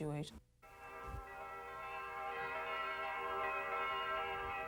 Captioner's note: church bells ringing